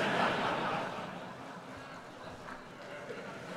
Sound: laughter

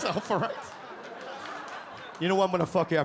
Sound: audience laugh

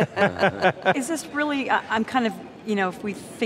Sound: laughter

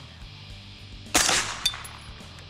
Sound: fires

